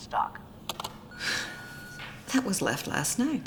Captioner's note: answering machine beeps